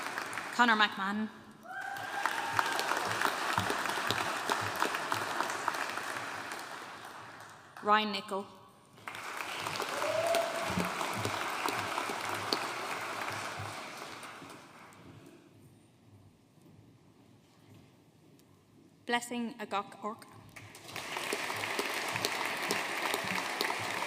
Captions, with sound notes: Connor McMahon. (AUDIENCE CHEERING AND APPLAUDING) Ryan Nichol. (AUDIENCE APPLAUDING) Blessing Ogoh-Orch. (AUDIENCE APPLAUDING)